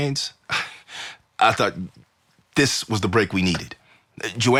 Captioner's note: laughs